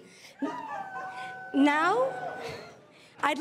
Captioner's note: crowd cheering and laughing